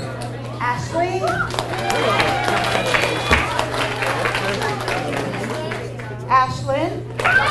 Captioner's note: people chattering; audience cheers and applauds; audience cheers and applauds